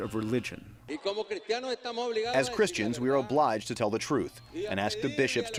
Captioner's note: through translator